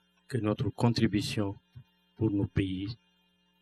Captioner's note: speaking french